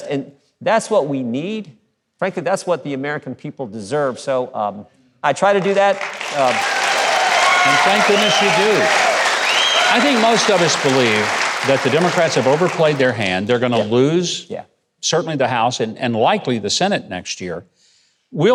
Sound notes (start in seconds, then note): 5.2 audience applauding; 8.5 audience cheering